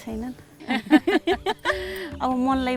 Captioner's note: laughs